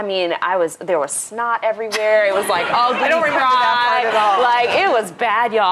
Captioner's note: laughter